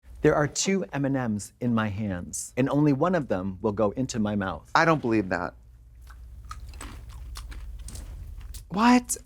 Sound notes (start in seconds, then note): 6.0 Katya crunches; 8.2 candy clatters